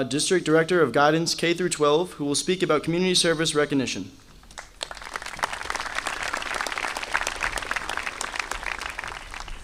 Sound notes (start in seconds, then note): 4.5 audience applauding